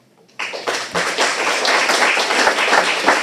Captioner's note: applauding